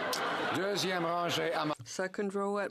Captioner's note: speaking French